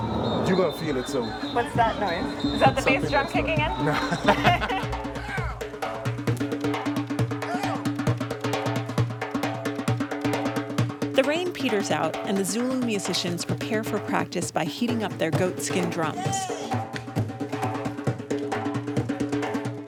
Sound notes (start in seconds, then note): 4.8 laughs; 5.5 rapid drumming; 17.4 drumming continues